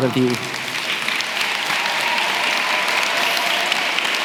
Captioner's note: applause